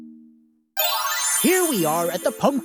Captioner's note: magic twinkle